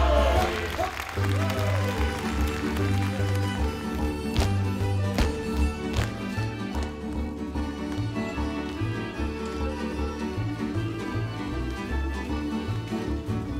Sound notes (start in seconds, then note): 1.7 audience applauding; 3.8 performers stomping; 7.6 upbeat folk music